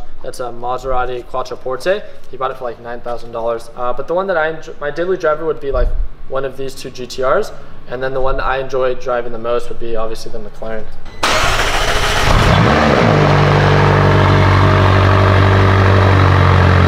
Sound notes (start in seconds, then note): 11.1 car engine starting; 13.6 car engine running